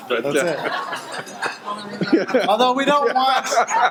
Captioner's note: audience laughing